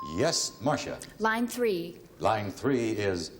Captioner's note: ding